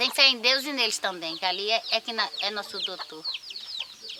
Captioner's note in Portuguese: Canto de pássaros